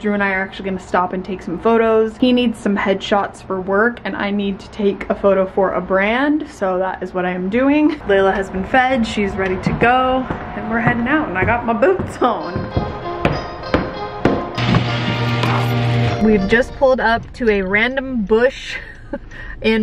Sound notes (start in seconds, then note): 11.6 slow music; 12.8 footsteps clanking